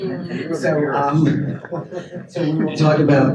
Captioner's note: audience chuckles